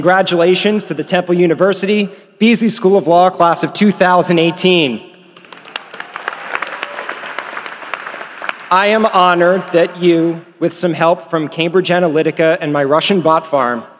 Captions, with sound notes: >> THANK YOU, DEAN MANDEL. AND CONGRATULATIONS TO THE TEMPLE UNIVERSITY BEASLEY SCHOOL OF LAW CLASS OF 2018! [APPLAUSE] I AM HONORED THAT YOU, WITH SOME HELP FROM CAMBRIDGE ANALYTICA